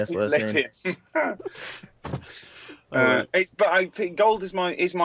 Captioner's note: laughs